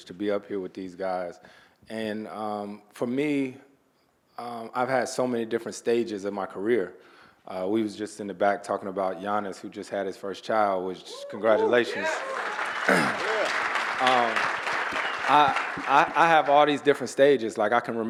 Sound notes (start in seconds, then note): 13.0 audience applauding